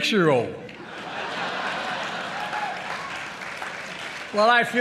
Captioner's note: laughter and applause